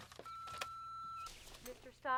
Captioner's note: machine beeping